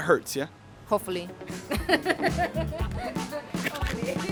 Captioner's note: laughs; upbeat music